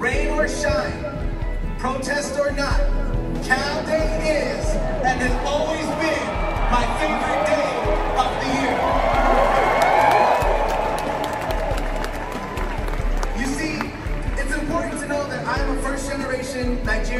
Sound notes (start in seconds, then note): 9.3 applause